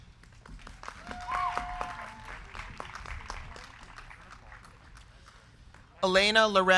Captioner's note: crowd clapping; crowd cheering